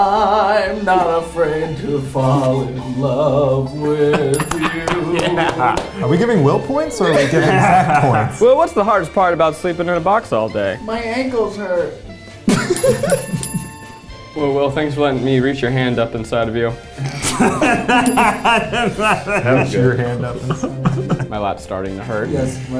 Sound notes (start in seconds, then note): 3.9 laughing; 4.3 bell rings; 5.2 applauding; 12.5 laughing; 12.6 bell ringing; 17.0 laughing; 17.6 bell rings